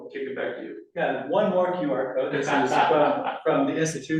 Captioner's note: laughing